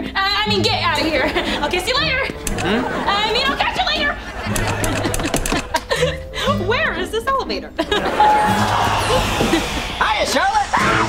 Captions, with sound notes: Er... I mean get outta here, I'll kiss you later! - Hmm? - I mean I'll catch you later! Where is this elevator? [laughing] - Hiya, Charlotte! - Ahh!